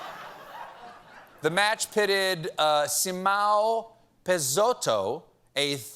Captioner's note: laughter